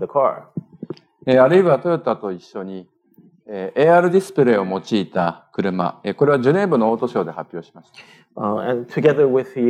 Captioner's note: speaking japanese